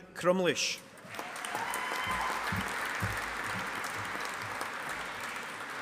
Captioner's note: audience applauding